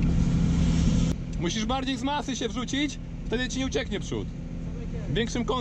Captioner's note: car